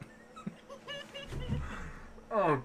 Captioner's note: all wheezing laughing